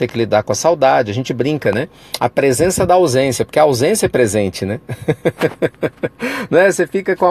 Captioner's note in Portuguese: risos